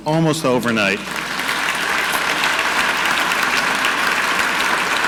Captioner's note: audience clapping